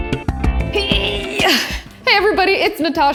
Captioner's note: grunts